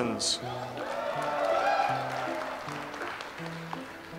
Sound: audience applauds

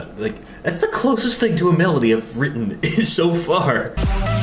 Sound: snicker

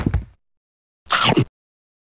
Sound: chomp

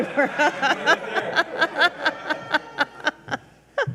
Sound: all laugh

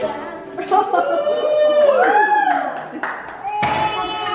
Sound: cheering; clapping

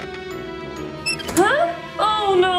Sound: chair thuds; metal squeaks

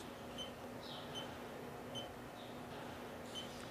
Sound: beeping

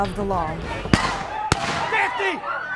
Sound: gunshots

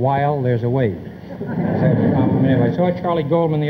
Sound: audience chuckles

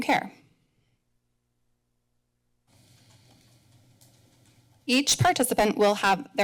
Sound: pause

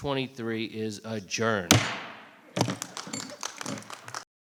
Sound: audience clapping; gavel bangs

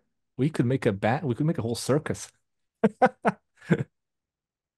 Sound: laughs

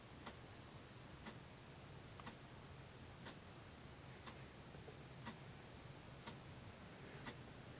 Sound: the sound of a clock ticking

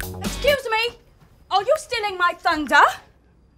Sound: English accent

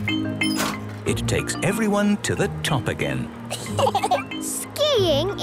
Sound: laughter

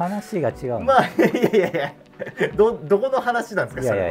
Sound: laughing

